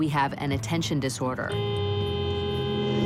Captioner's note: horn blaring